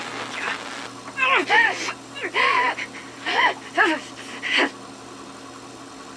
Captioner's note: grunts